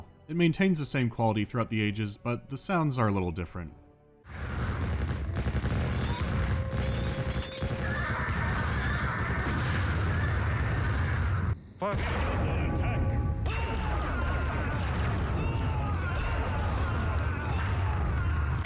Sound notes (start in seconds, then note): 4.3 sounds of ballistic weapons firing; 11.7 sounds of energy weapons firing and screams of dying